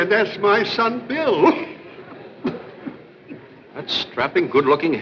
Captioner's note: coughs